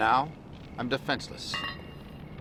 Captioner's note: metal clang